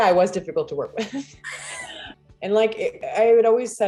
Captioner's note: laughing